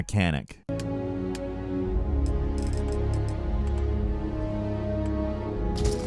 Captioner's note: menu rattles; subdued music